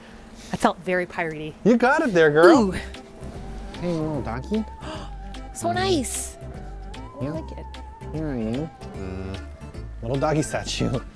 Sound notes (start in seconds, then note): 4.8 gasp